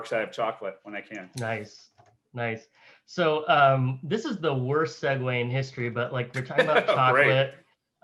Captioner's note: laughs